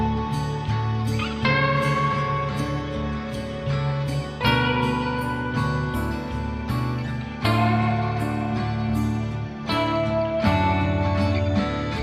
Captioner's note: Aplausos